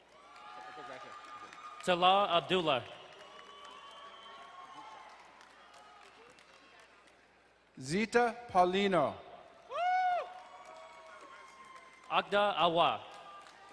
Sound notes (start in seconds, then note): 0.0 crowd cheering and applauding